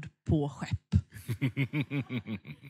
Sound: skrattar

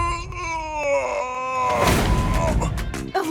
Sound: groaning

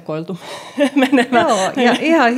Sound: laughing

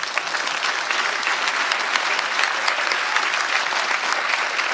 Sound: applause

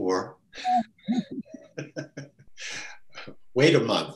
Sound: laughs

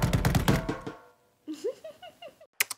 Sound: laughter

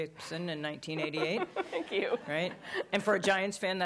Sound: chuckles

